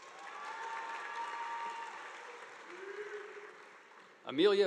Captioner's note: audience applauding